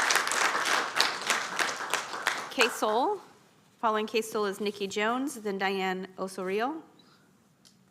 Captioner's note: applause